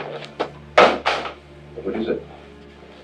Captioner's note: Reager bangs the phone